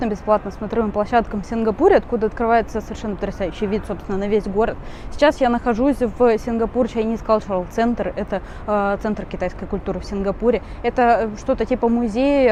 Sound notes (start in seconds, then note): 8.0 translates into Russian